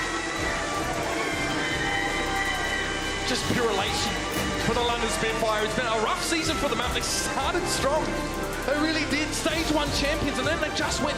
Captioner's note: cheers and applause